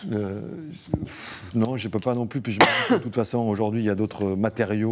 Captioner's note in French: raclement de gorge